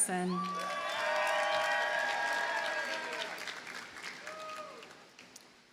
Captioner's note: audience cheers and applauds